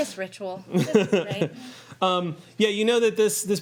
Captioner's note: laughing